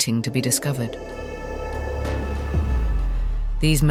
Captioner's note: demon growling